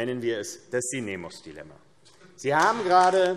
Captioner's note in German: Beifall AfD